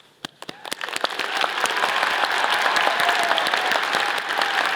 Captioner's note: all applauding